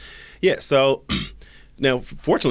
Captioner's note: clears throat